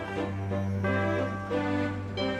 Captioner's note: diesel blows